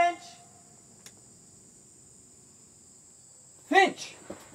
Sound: insects chirping

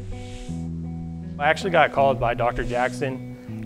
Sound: brushing horse and music

